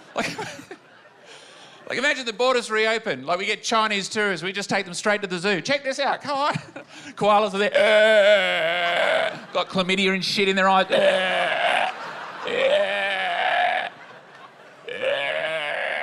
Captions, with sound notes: Like, imagine the borders reopen. We get Chinese tourists, we take them straight to the zoo. "Check this out! Come on." Koalas are there. (CROAKS) Got chlamydia and shit in their eyes. (CROAKS)